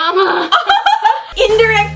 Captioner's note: both laugh